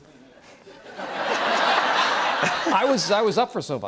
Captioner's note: laughter